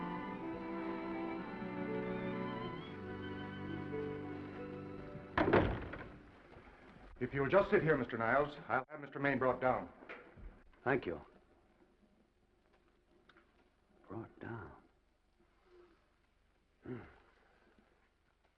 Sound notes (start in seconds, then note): 0.0 gentle music; 5.3 door latches; 16.8 sighs